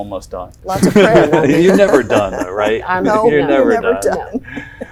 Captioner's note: laughs